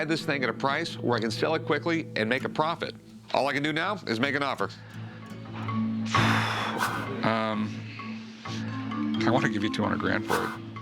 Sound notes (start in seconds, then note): 6.2 snorts